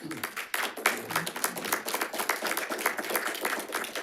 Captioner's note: audience applauds